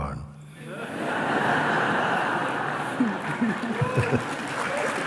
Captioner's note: risas y aplausos